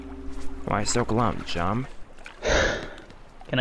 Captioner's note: sigh